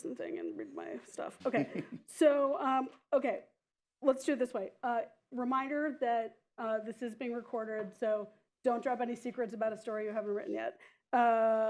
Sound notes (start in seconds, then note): 1.4 laughter